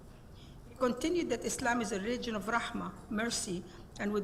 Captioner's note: speaks Arabic